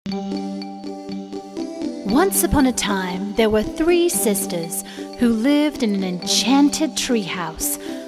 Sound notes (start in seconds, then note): 0.0 playful music; 2.3 voiceover